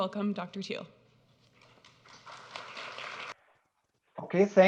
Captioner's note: audience clapping